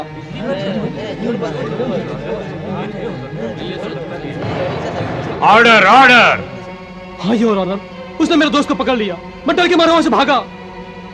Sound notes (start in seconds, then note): 0.3 indistinct chatter; 4.3 gavel tapping